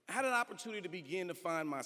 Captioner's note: none